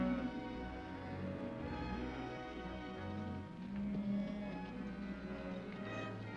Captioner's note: soft music; cattle moo; dramatic ominous music